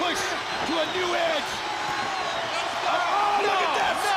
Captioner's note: crowd chatter